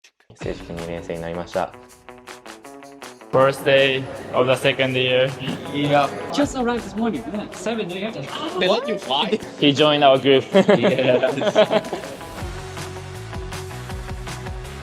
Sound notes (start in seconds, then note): 10.4 laughs